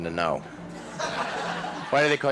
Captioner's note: audience laughs